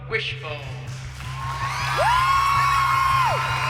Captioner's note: cheering